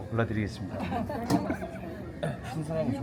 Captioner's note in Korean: 웃음